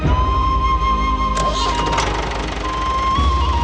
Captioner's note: engine Start